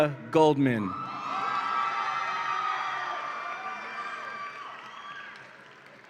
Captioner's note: audience applauds and cheers